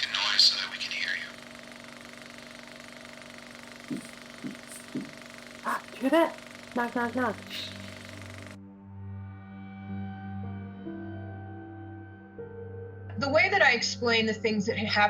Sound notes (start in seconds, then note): 4.4 gentle knocking; 8.9 tense music